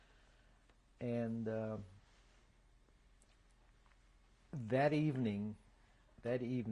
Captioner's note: pauses for 3 seconds